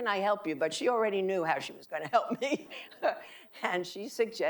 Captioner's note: laughing